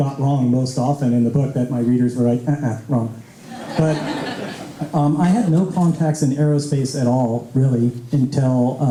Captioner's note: laughter